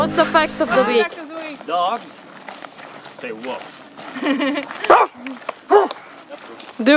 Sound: barks

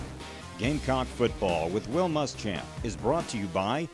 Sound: intense music; voiceover

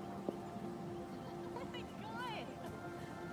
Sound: cassie laughing

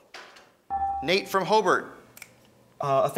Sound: ding

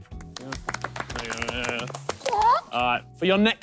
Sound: clapping

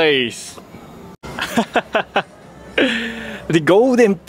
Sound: laughs

